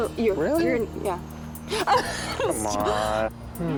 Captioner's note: laughing